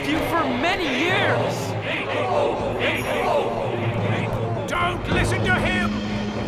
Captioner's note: chanting Inkyboo